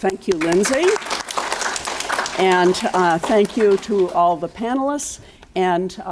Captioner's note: applauding